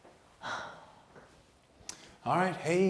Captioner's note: sighs